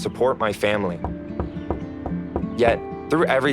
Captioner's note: knocks on the door